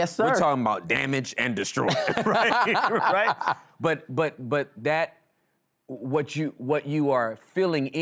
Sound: laughing

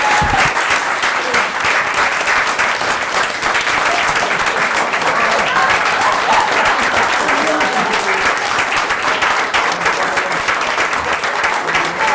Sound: applause

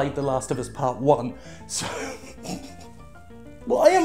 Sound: starts laughing

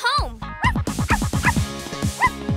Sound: barking

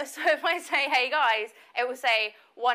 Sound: laughs

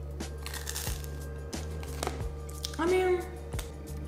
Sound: bagel crunches

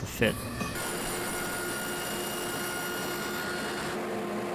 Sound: saw buzzing

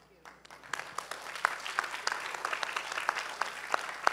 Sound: applause

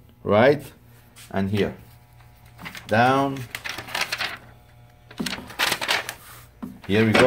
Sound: paper crinkling

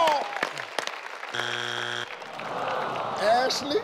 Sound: buzzing sound

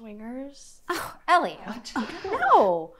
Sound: scoffs

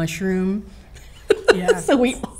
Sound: laughing

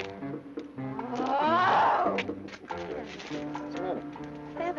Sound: growling

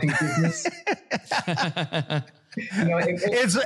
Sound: laugh

